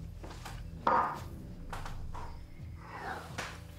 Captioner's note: glass clanks